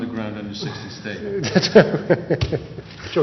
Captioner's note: laughter